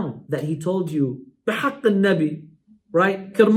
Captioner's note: Arabic